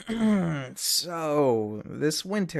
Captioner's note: clears throat